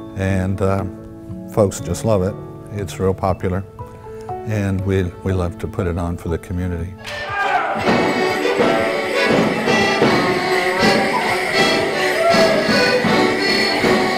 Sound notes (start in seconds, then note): 7.2 man hollering; 9.1 footsteps thumping; 9.1 lively music